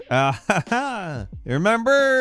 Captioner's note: laughs